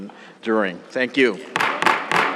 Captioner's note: banging sound